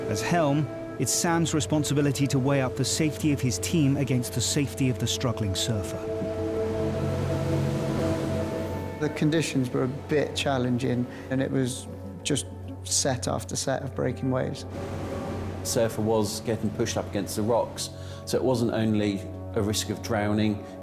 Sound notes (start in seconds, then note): 5.9 waves crashing; 6.3 soft ominous music